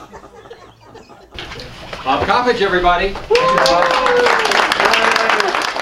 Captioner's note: applause